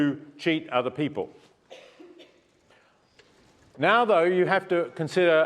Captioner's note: cough